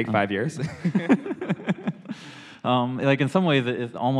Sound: laughter

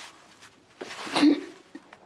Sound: Aaron sobs

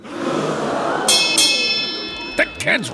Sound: bell ringing

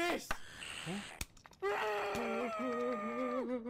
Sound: screams

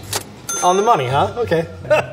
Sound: bell chiming

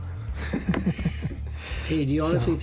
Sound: laughing

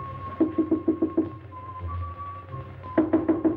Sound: door knocking

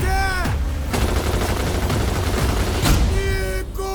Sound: boat motor revs; rapid gunfire

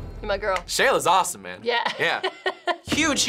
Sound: chuckles

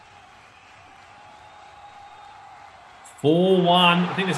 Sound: crowd cheers

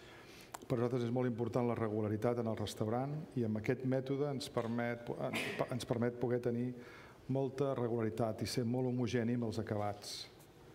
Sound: speaking catalan

